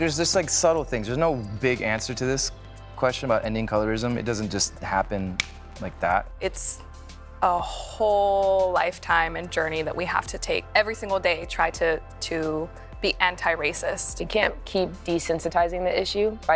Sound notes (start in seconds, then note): 5.3 snaps